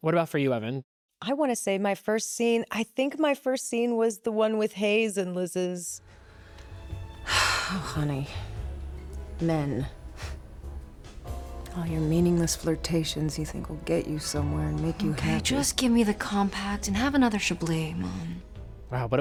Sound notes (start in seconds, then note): 8.9 scoffs